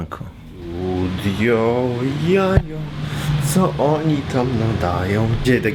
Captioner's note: hums